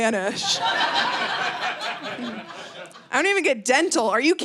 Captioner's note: audience laughing